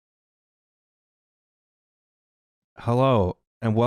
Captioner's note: foreboding silence